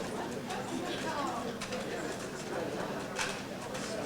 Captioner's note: audience chattering